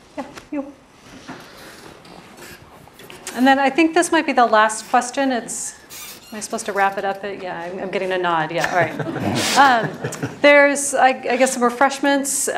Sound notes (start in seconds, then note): 8.6 laugh